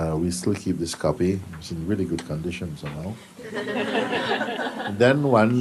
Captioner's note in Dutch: gelach